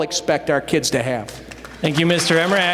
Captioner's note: applause